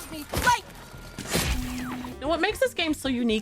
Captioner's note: blows thumping